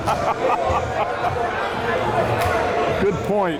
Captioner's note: laughing